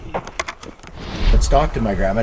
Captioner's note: air whooshing